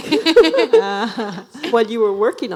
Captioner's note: laughing